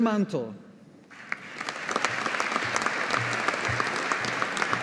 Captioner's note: audience applauding